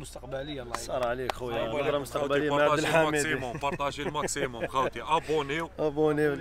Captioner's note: chuckles